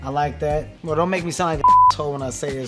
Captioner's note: beep